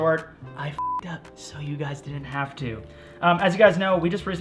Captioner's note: beep